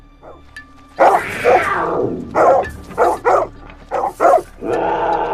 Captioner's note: the growls of dogs and snow leopard